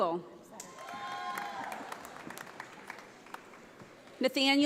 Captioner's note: audience applauding